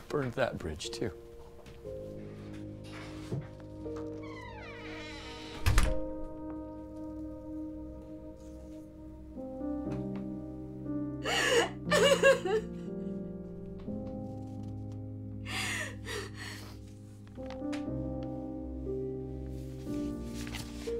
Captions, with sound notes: - I burned that bridge, too. (saddening music) (sobbing) (saddening music)